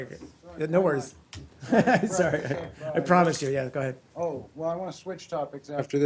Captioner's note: laughter